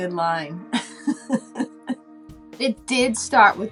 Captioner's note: laughing